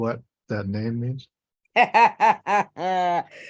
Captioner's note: laughter